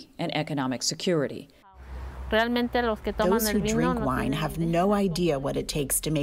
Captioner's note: through translator